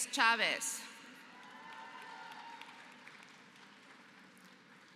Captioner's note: applause